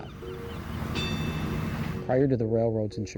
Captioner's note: seagulls cawing; bell tolling